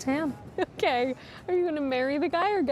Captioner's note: Tiffany laughs